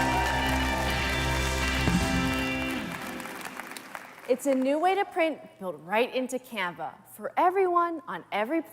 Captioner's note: applause